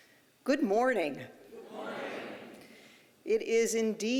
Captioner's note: audience replies good morning